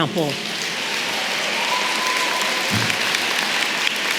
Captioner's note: applause